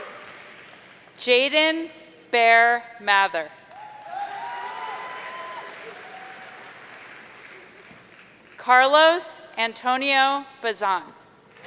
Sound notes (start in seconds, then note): 3.8 audience cheering